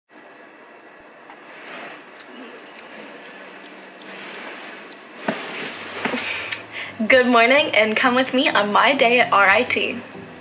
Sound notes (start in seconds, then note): 2.0 clock ticking